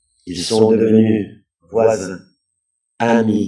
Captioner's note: french